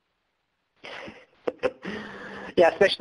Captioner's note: laughs